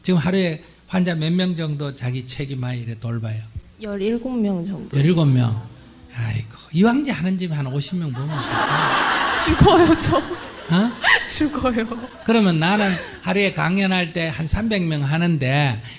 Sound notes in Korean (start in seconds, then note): 8.1 청중 웃음; 11.2 질문자 웃음